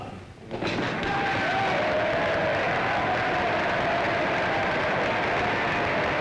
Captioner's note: audience cheers and claps